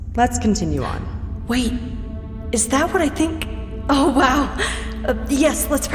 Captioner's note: gasping; excitedly